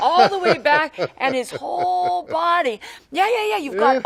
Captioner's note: Sam laughs